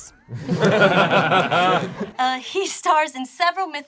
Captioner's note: group laughs